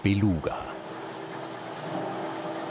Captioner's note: machine noise